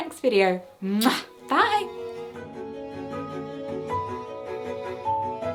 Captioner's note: peaceful music; kiss sound